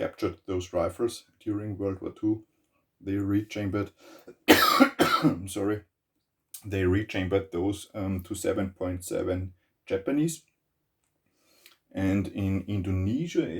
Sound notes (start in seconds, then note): 4.3 coughs